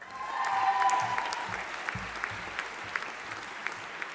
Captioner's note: audience applauding